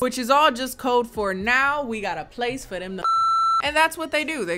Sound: beep

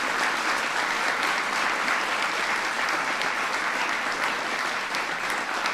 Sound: applause

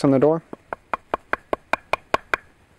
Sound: knocking

